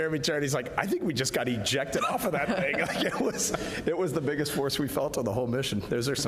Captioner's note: laughter